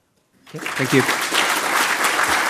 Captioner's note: applause